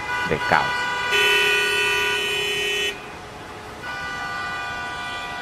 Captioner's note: car horn sounding